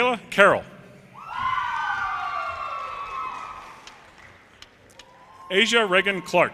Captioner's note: audience cheers and applause